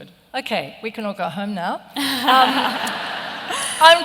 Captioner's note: laughter